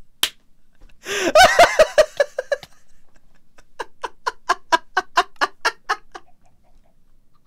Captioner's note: laughs